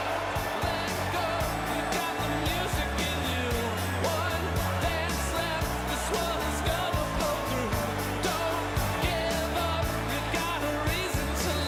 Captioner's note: cheers and applause